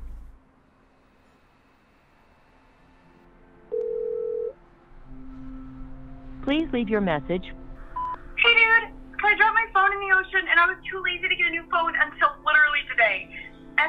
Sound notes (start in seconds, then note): 3.7 phone ringing; 8.0 beep